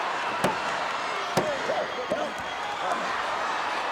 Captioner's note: audience cheering; mat banging